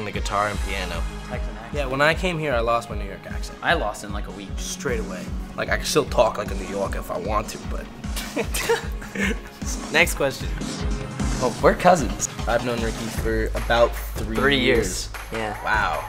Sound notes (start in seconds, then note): 8.1 laughs